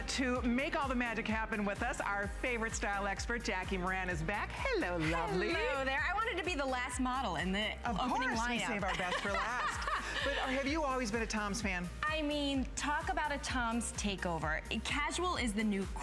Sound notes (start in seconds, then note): 8.6 laughter